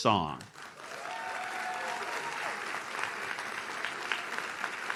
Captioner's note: audience cheers